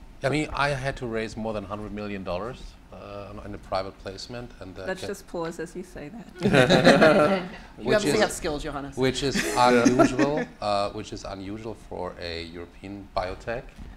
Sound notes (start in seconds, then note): 6.3 all laughing